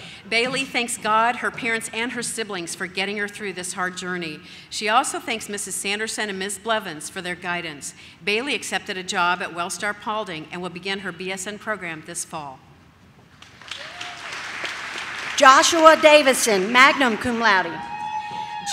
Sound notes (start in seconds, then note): 13.4 audience claps; 15.8 audience cheers